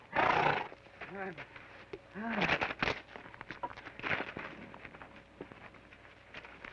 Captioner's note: horse snorts; Joshua grunts